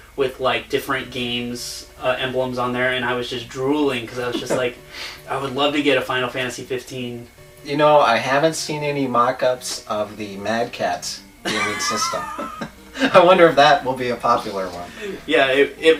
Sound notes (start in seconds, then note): 11.4 laughs